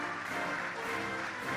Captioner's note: cheering and applause